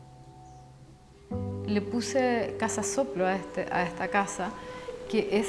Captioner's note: breath